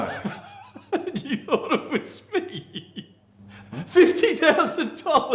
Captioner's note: laughing